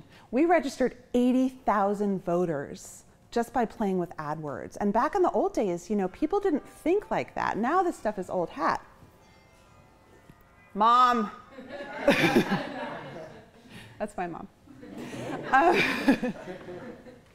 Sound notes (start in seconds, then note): 9.1 bells; 11.7 chuckling; 14.8 chuckling